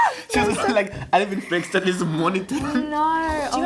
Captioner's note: background chatter, dramatic music